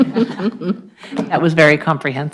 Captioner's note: group laughs